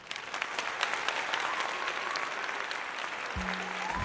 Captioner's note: crowd Applause